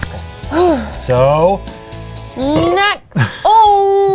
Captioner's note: burps